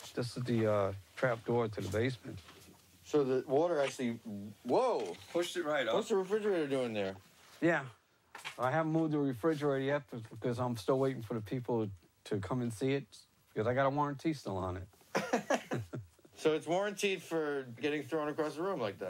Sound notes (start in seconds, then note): 15.1 laughing